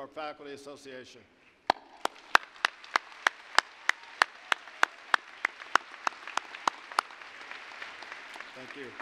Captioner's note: applause